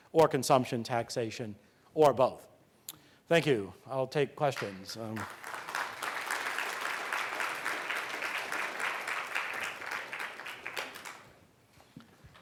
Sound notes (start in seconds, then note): 4.5 audience clapping